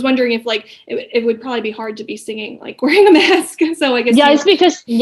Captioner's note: laughing